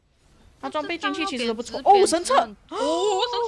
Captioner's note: chatting